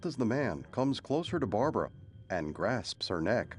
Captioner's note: thunder rumbles